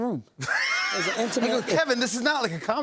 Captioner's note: laughter